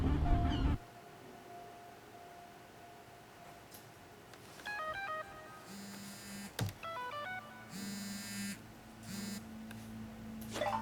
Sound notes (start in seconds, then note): 7.4 cell phone